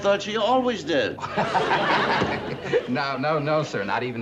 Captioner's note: laughs